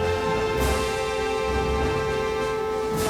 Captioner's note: alarm Continues